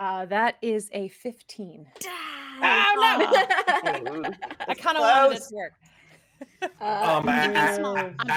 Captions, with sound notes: That is a 15. (person shouting) - I kinda wanted this to work.